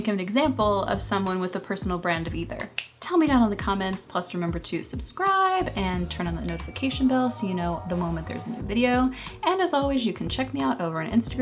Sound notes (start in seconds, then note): 2.6 finger snap